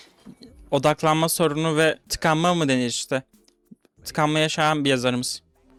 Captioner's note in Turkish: homurdanır